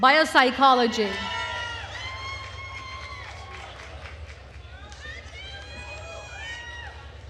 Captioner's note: attendees cheering and applauding